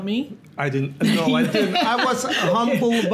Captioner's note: Gary laughs